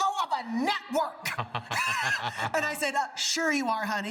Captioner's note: laughs